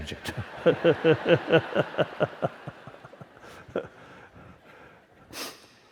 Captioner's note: laughter